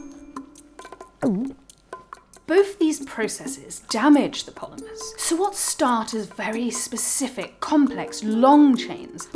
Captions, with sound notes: [gulps] Both these processes damage the polymers. So what start as very specific, complex, long chains